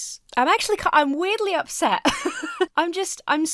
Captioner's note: laughs